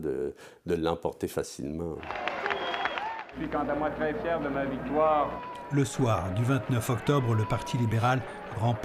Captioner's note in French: applaudissements